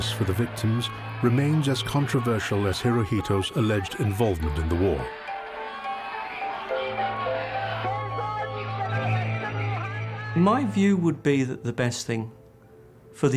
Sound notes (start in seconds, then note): 5.1 tense music; 5.8 protestors shouting